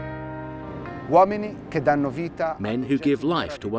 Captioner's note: gentle music; speaking foreign language